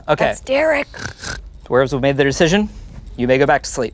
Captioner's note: snores